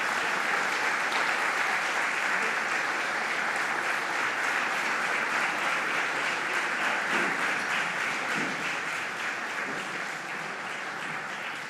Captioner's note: applause